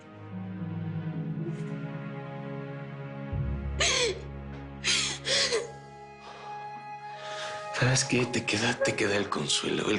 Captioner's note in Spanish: Sollozos